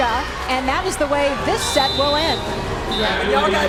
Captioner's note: whistle blows